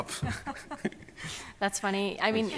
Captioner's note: laughing